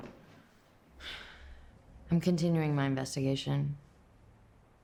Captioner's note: sighs